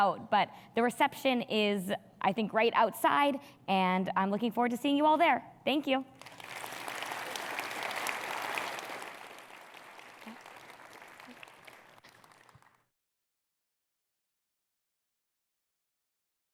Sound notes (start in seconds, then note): 6.1 audience clapping